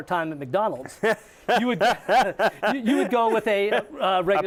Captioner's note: laughs